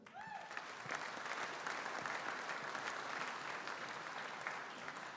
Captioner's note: audience applauding